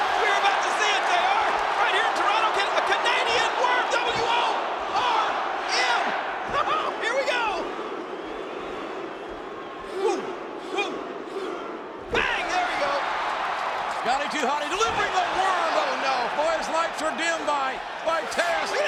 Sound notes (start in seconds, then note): 5.2 laugh